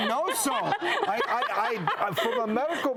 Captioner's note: laughter